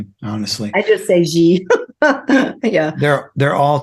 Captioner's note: laughs